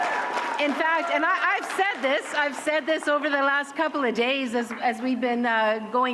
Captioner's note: cheering